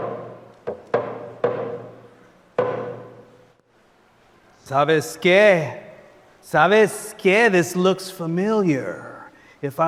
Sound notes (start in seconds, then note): 4.9 speaker speaking in foreign language